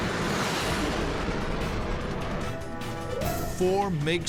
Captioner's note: jet engine noises